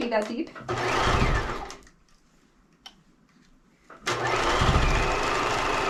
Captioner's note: sewing machine roaring